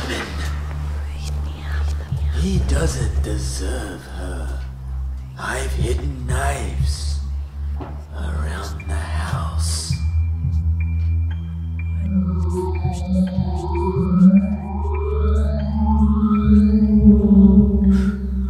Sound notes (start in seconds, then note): 0.0 wind and whispers; 2.3 ominous voice; 11.2 wind and whispers